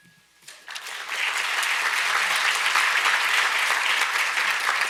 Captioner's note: audience applauds